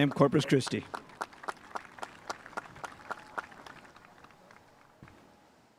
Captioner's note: spectators applauding